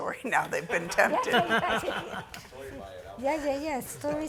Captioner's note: all laughing